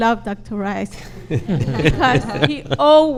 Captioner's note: laughs